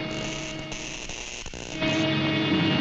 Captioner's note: electricity zapping; machine whirring